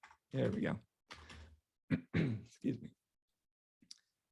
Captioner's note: clearing throat